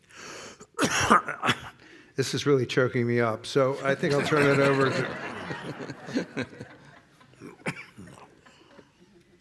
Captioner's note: coughs; laughter